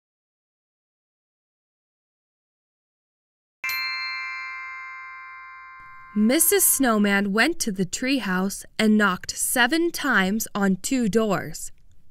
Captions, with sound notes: (bells chime) Mrs. Snowman went to the tree house and knocked seven times on two doors.